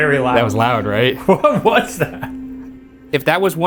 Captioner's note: laughing